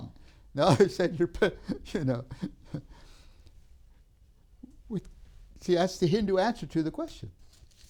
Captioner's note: laughs